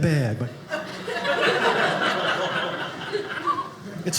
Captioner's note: audience laughing